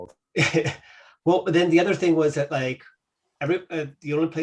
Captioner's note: laughs